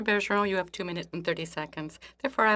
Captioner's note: speaking French